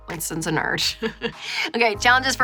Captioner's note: laughing